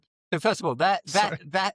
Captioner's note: laughs